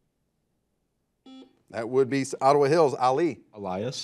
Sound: buzzer buzzes

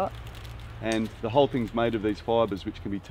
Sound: stem snaps

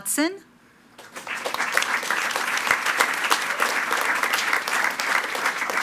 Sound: attendees clapping

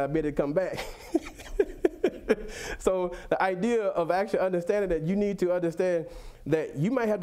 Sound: laughs

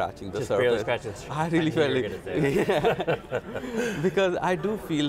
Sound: both laughing

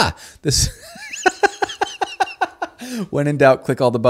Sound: laughing

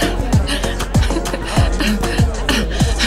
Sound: Juliet laughing

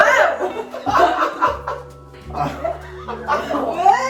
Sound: laughing

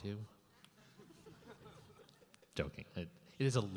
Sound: laughing

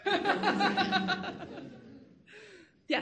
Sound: all laughing

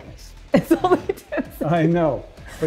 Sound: laughs

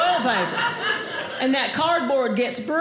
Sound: audience laughing

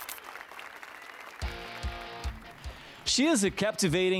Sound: applause and cheers

